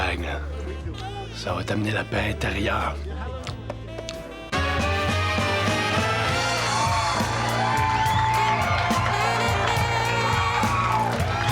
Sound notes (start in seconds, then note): 4.9 jazzy music; 7.1 guests cheering